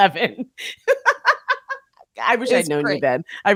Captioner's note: laughing